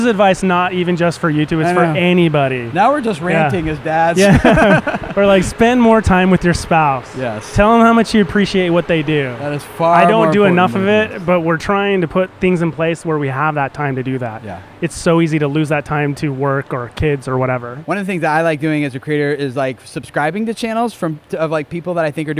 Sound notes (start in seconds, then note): 4.8 laughs